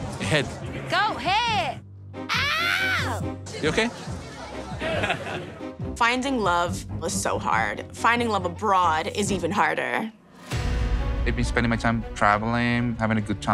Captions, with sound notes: Goat head? [SCREAMS] You OK? [LAUGHS] Finding love was so hard. Finding love abroad is even harder.